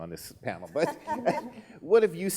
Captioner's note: laughing